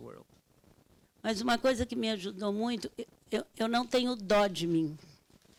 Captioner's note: speaking Portuguese